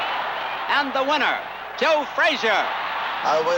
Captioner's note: crowd cheering